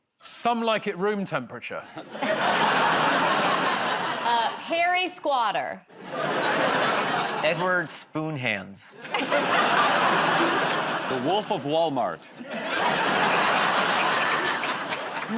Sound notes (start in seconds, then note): 1.9 laughter; 9.0 laughter